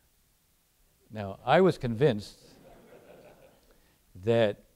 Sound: audience laughing

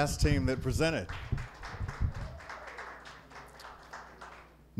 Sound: applause

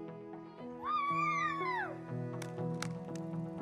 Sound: girls cheer

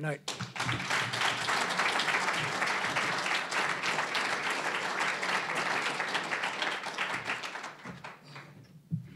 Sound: applause

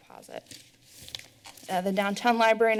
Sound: paper shuffling

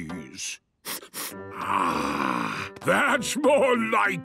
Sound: sniffs

